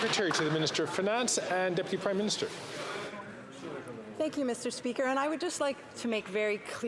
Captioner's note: some Applause